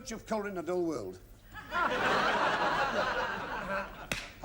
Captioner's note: laughter